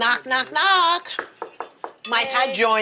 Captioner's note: knocks on wall